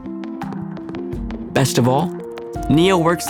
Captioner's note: keystrokes